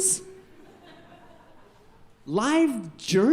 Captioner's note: audience laughing